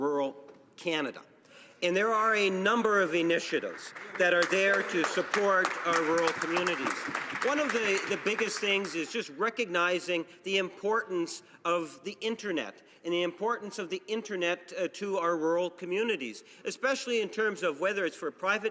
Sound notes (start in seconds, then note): 9.8 applause